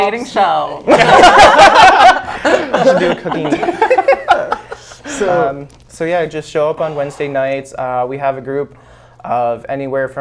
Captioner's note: laughs